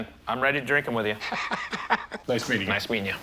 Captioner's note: Rick laughs